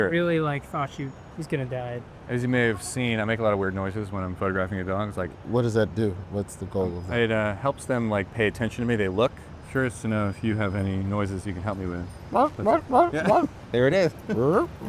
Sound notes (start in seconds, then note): 12.3 Roy imitates dog barking